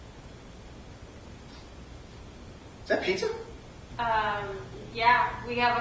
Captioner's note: sniffing